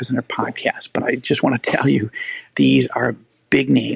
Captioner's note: laughing